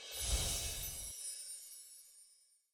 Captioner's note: chiming sound effects